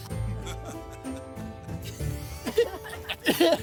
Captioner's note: laughter